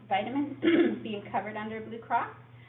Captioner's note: clears throat